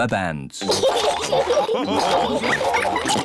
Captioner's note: all laugh